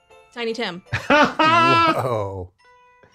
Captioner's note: laughs